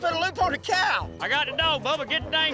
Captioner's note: laughs